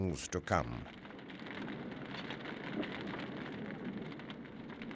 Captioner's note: fire crackling